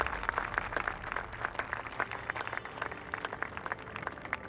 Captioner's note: crowd applauds